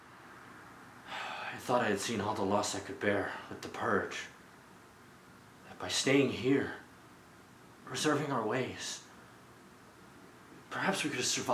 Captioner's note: sighs